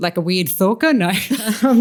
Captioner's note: laughter